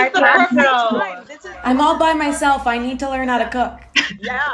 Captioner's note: laughs